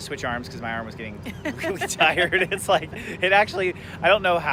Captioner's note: laughs